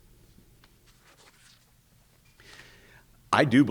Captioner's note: page shuffling